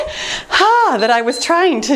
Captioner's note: timer beeps